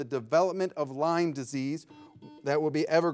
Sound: buzzer ringing

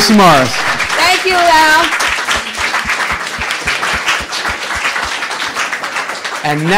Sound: applause

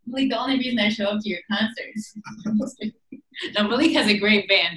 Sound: chuckling

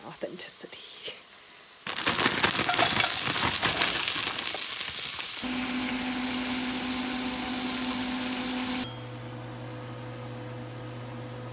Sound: cooking noises

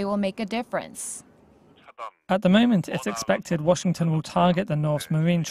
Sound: Korean

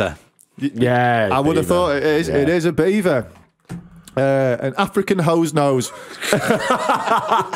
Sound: laughter

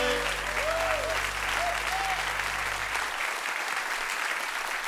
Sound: cheers and applause

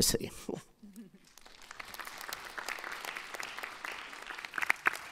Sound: audience applauding

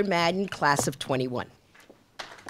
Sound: applause

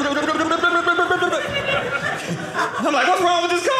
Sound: audience laughing

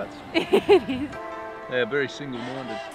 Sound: laughs

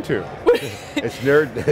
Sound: laughs

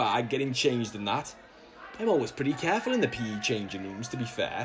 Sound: we hear the sounds of a noisy changing room

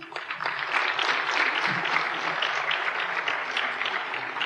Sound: applause

